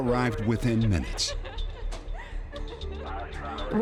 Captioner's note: crying